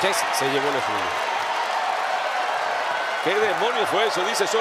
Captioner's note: applause